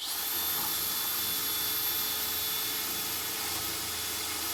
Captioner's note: drilling sound